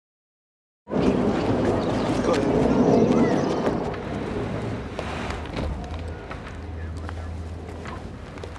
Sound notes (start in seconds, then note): 0.9 traffic rumbling